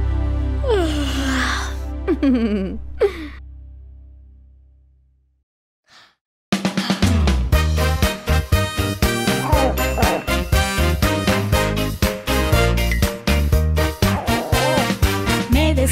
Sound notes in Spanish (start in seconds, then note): 0.7 Sonido de bostezo; 7.1 Música alegre